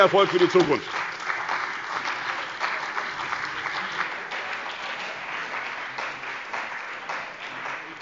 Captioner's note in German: Beifall bei der CDU und dem BÜNDNIS 90/DIE GRÜNEN sowie bei Abgeordneten der SPD